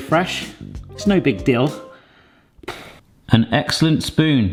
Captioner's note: exhales